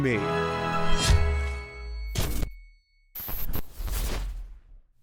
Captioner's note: static noises